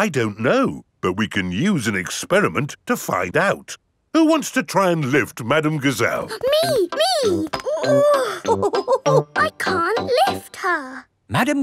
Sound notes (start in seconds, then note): 7.2 chuckles; 8.0 straining